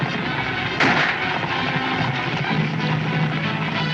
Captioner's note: gunshot